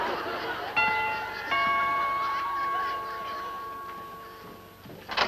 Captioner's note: doorbell rings